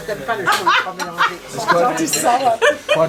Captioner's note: cheerful laughing